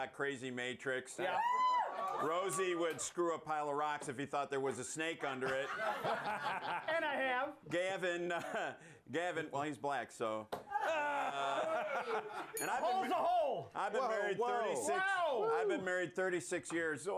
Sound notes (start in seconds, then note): 5.3 laughter; 12.5 bell rings